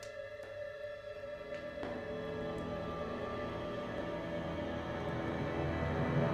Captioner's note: footsteps approaching